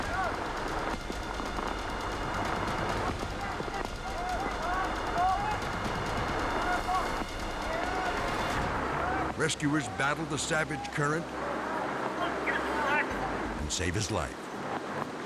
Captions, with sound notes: (guys yelling) (dramatic music) (water rushing) (guys yelling) Rescuers battle the savage current... And save his life.